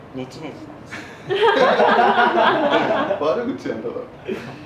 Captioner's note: laughter